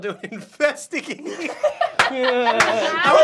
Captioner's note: laughing